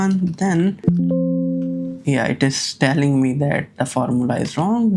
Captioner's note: computer alert